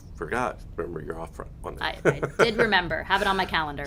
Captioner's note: laughs